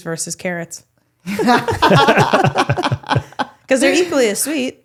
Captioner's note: all laughing